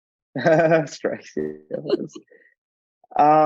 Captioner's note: chuckling